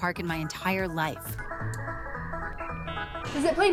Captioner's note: upbeat music; electronic warbling